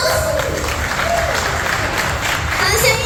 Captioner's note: clap clap clap